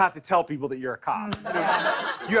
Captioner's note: ding